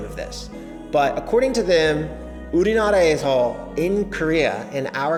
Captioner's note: speaks Korean